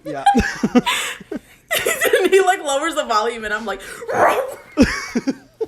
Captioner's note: both laugh; growls; both laugh